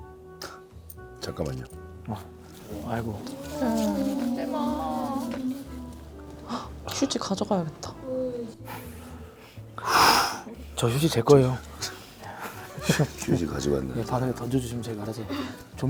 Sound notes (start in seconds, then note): 2.5 haha